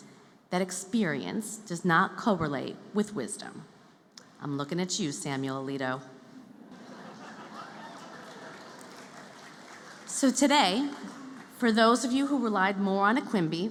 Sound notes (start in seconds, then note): 6.5 laughter